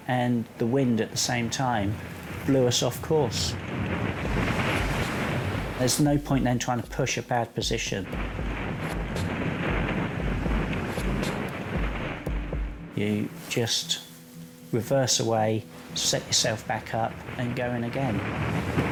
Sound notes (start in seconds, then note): 8.4 wind whipping; 18.6 wind whipping